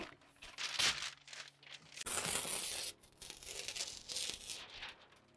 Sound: insulation paper ripping

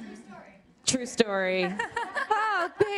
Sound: laughter

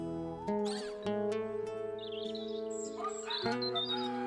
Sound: birds Chirping; rooster Crowing

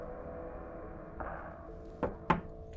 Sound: fist knocks on the wall

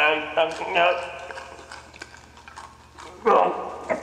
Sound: crunching

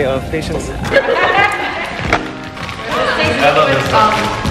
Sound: overlapping chatter

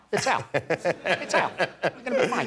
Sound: laughter

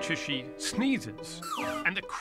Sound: slide whistle

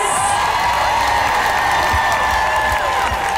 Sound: cheering

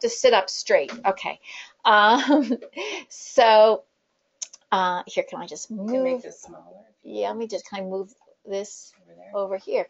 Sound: laughter

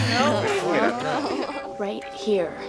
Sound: Cody giggles

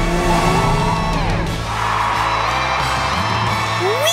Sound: cheering

